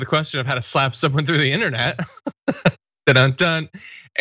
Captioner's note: laugh